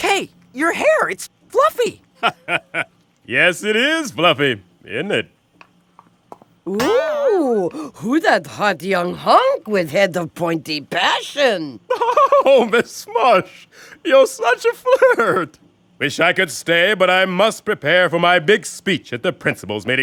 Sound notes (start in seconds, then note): 2.1 chuckles; 11.8 giggles